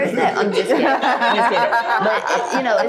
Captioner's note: group laughing; host and group laugh